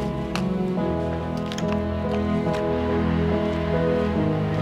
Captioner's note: none